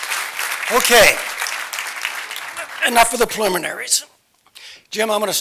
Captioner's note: applause